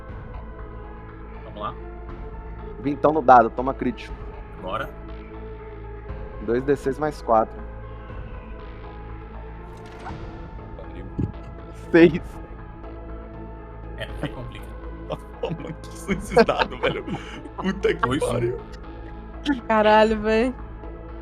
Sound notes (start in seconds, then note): 12.0 laughing